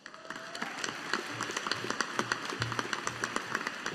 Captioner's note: audience applauding